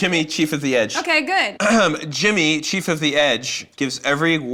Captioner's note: clears throat